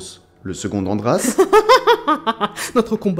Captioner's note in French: rire